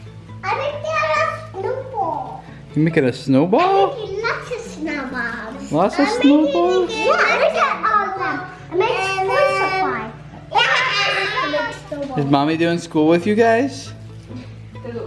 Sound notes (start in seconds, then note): 10.5 yells